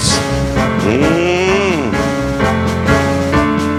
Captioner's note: Don humming